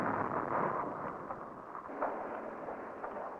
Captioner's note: explosion